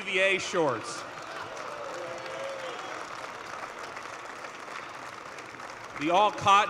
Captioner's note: applause